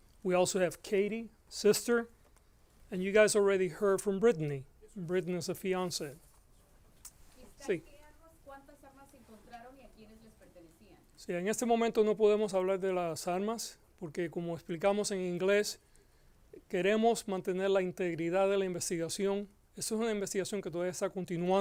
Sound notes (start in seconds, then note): 7.3 Gascon speaking Spanish; 8.1 reporter speaking Spanish; 11.1 Gascon speaking Spanish